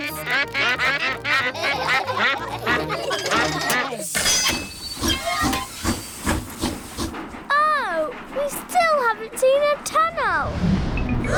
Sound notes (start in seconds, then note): 0.0 all quack; 0.2 laughter; 5.2 train chugs; 11.2 all gasp